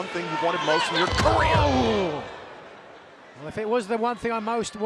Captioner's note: crowd groans